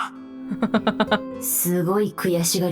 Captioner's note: chuckles